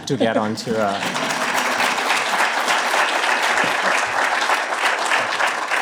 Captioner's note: applause